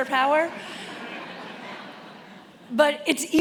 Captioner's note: attendees laughing